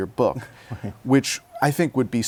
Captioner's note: laughter